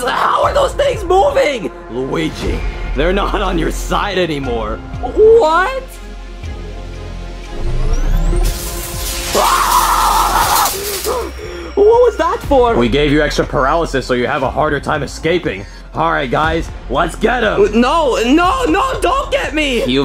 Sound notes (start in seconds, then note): 6.3 suspenseful music; 8.4 static fizzing; 9.3 Luigi yelling